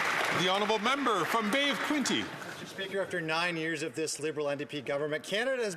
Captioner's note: some Applause